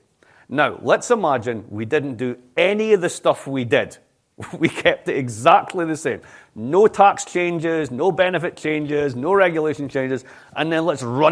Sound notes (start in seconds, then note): 4.4 laughter